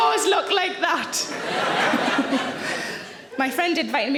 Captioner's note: audience laughing